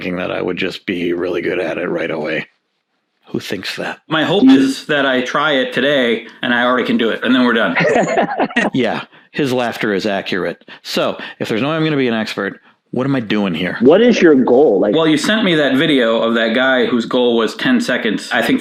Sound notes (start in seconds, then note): 7.7 laughing